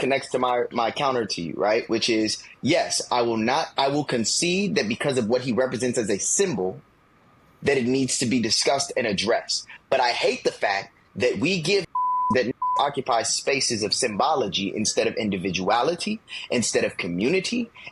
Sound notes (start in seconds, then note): 11.9 beep